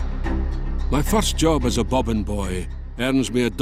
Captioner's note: Voz en off